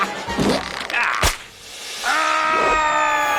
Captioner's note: laughing; rope snapping; screaming